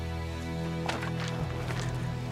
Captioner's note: stones crunch